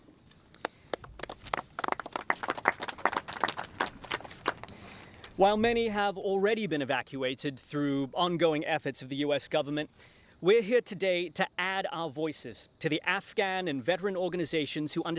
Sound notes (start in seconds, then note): 3.6 applause